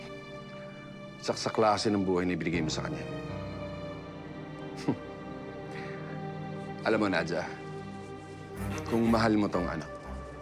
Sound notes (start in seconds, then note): 4.6 scoffs